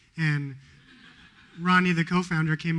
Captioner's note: laughter